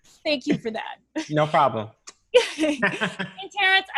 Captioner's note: laughs